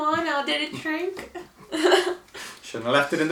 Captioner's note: laughing